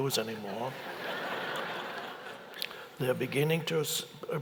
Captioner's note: audience laughing